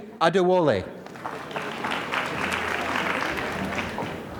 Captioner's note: applause